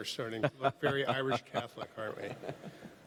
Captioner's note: laughs